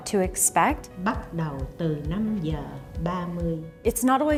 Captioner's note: speaking foreign language